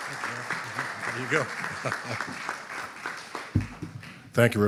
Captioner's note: audience applauding; chuckles; audience applauding